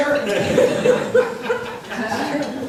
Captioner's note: laughs